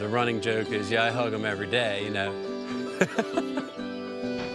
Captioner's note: laughing